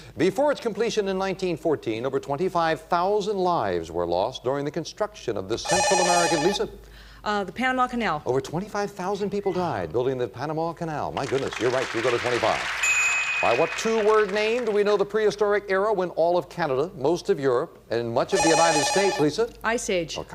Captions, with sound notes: Before its completion in 1914, over 25,000 lives were lost during the construction of this Central American-- (beep) Lisa? - The Panama Canal. - Over 25,000 people died building the Panama Canal. My goodness, you're right. You go to $25. (bell) By what two-word name do we know the prehistoric era when all of Canada, most of Europe, and much of the United States-- (beep) Lisa? - Ice Age.